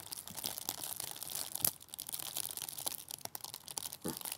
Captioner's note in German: Es knistert und knackt